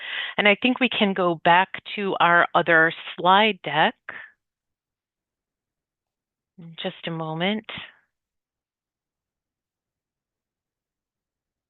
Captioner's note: pause